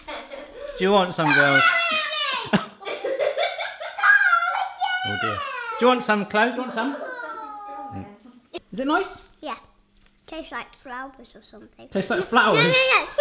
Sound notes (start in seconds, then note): 0.0 laughter; 2.4 laughter